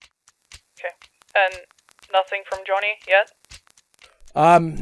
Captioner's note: over the phone